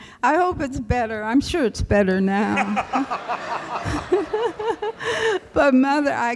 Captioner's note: laughter